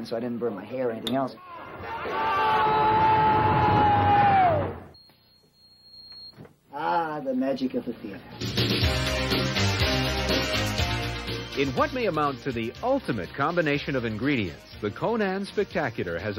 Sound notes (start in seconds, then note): 1.7 pyrotechnic exploding; 3.3 man screaming; 8.5 exciting synth music